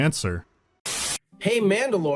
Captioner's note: static